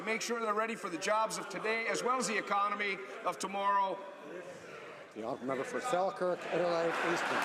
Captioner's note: some Applause